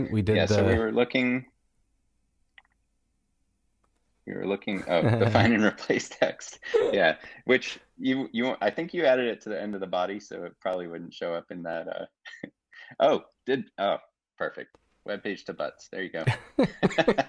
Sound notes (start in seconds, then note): 6.7 laughter; 12.8 chuckling